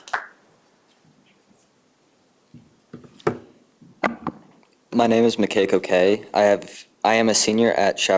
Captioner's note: applause